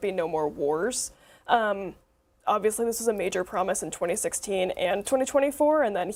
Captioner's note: none